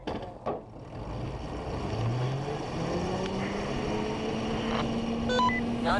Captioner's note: sounds of cars starting up; muffled radio communication between drivers and crew